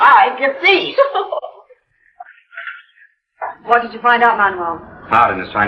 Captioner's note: laughs